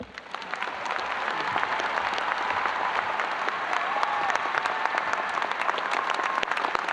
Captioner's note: audience applauding